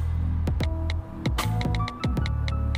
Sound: iphone keyboard clicks

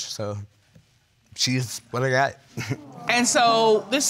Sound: chuckles nervously

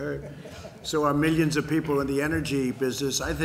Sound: laughter

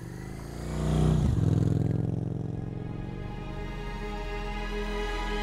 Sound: engine whirs; dramatic music

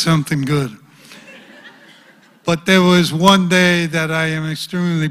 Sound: laugh

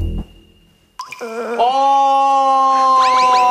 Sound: crying

